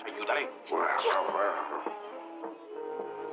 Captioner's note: scoffs